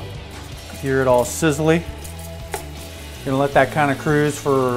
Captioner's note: pan sizzling